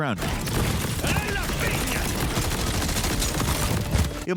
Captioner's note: gun firing